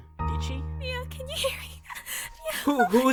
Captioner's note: sobs